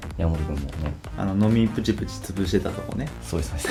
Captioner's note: laughs